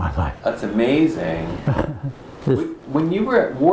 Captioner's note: laughs